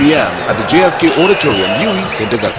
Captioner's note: wild applause and cheering for 22 seconds